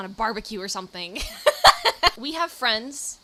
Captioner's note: laughs